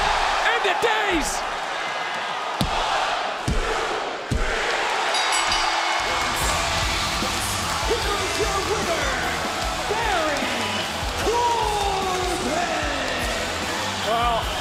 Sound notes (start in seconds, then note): 5.1 bell ringing